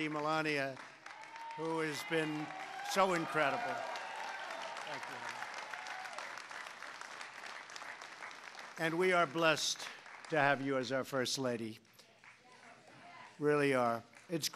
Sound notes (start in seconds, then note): 4.0 applause